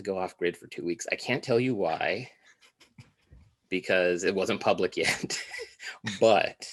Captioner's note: laughs